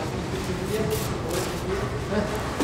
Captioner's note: quiet conversations